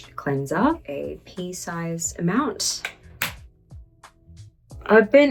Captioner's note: cleanser lid clacks